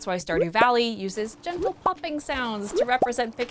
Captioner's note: pop; pop